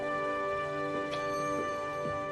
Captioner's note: doorbell ringing